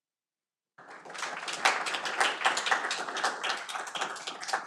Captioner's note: audience applauding